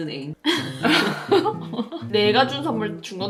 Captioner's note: laugh